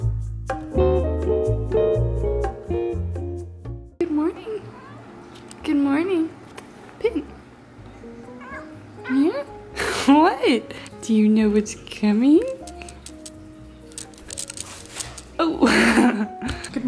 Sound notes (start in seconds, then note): 4.6 cat meows; 8.2 cat meows; 9.9 laughs; 15.3 laughs